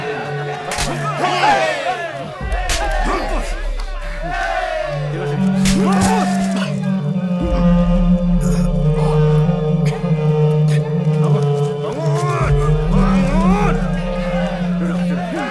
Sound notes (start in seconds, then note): 0.3 Malay Language; 0.3 slaps; 5.1 slaps